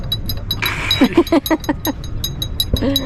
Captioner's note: laughing